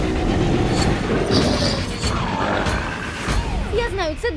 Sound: growling; music stops

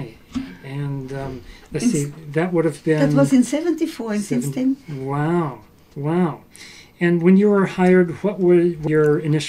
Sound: French

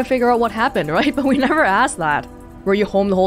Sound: chuckles

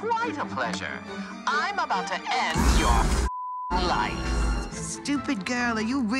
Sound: beep

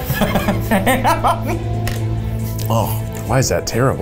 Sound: laughing

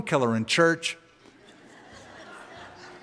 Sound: laughter

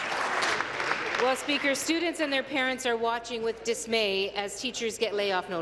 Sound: applause

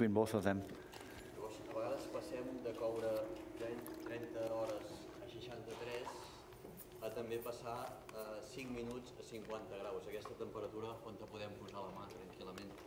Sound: speaking catalan

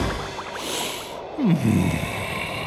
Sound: sighs

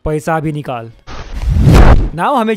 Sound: slaps

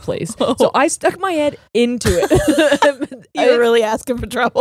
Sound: both laughing

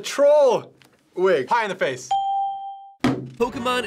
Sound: ding

